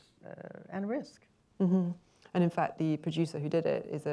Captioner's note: murmurs agreement